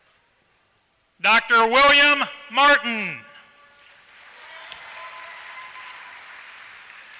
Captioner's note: applause